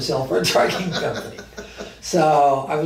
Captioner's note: laughs